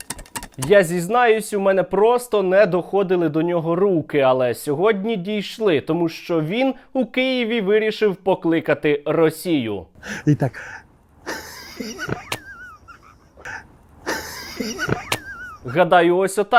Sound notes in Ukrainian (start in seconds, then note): 11.2 сміх